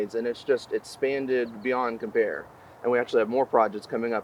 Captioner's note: none